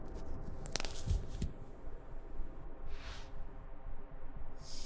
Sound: elastic stretching

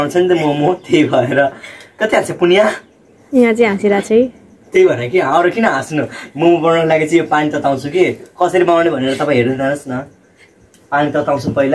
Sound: forign speech

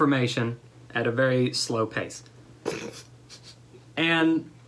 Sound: laughter

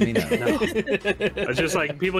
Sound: laughing

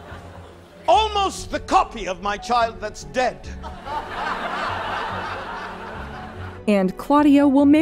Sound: audience laughter; audience laughter

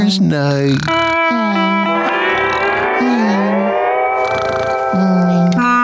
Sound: snoring; honking

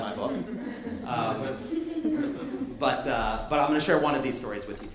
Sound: light laughter

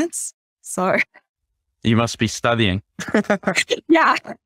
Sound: laughs

